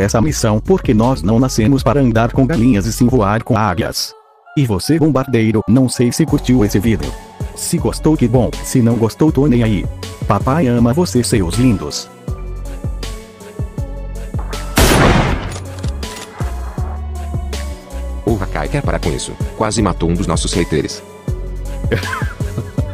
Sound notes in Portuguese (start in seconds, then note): 14.4 Tiro de AWM